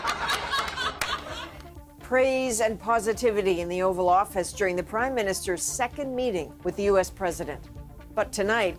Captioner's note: laughter